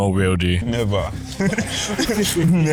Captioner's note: laughter